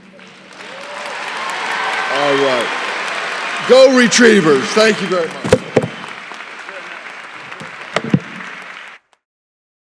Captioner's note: applause